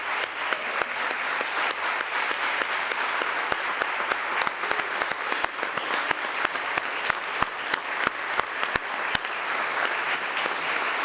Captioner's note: applause